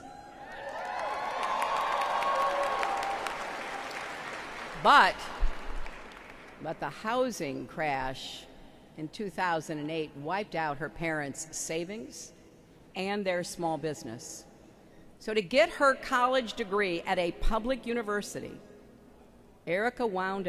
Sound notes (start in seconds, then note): 5.2 applause